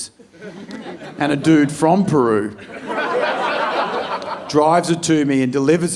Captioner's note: audience laughing